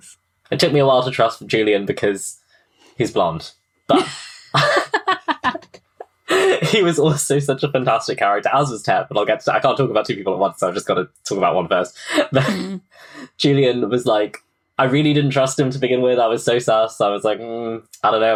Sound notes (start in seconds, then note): 3.9 laughing; 3.9 laughs